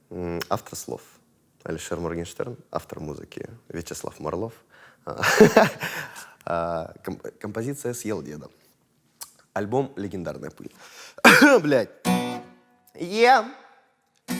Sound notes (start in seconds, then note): 5.2 laughs; 11.2 coughs